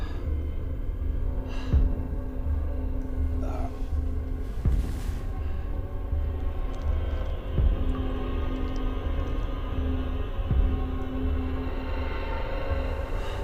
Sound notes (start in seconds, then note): 0.1 light dramatic music; 3.5 Monte groans; 6.5 suspenseful music